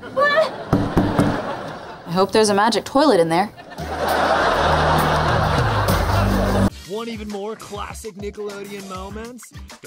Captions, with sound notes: [banging] I hope there's a magic toilet in there. [laughing]